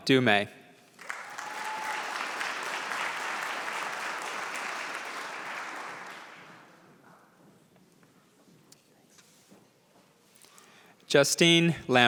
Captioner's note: applause